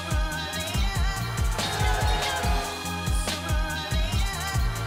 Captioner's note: crowd cheers